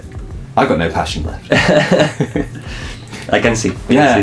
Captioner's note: laugh